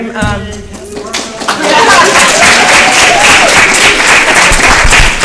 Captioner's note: applause